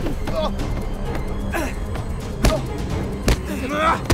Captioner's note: Irfan groans